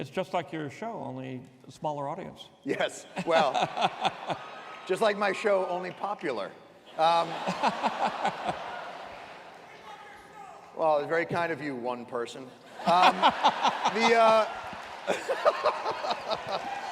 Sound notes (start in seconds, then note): 3.1 laughs; 7.0 laughter; 12.6 laughter; 12.7 laughs